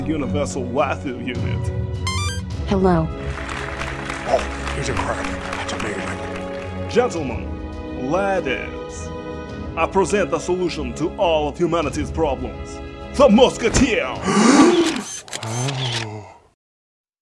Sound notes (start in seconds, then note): 3.2 more Applause; 14.2 gasps and Camera Shutters